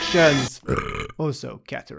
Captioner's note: burp